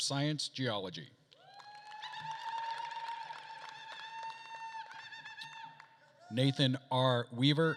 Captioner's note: attendees cheering and applauding